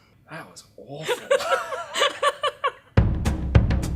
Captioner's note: laughs